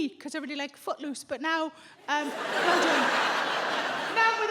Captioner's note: audience laughs